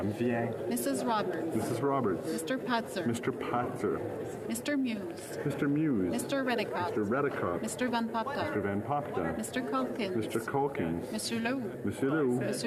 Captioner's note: calling of recorded vote